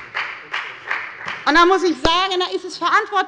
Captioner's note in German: Beifall bei der FDP